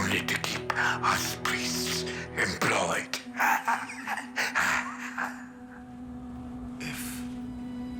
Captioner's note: laughs